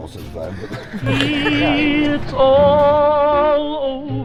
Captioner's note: laughter